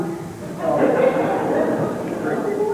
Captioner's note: laughter